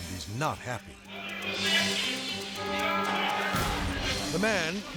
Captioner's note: shouting